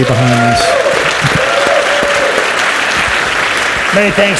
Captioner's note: audience cheers and applauds